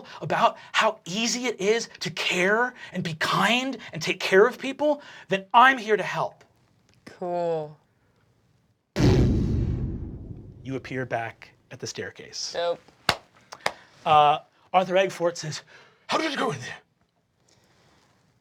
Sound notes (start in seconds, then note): 9.0 resonating boom; 13.5 clapping